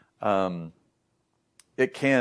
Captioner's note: smacks lips